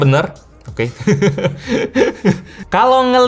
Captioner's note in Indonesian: Tertawa